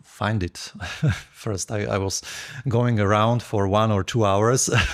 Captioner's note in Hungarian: nevetés